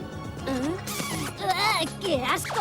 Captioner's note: kissing sounds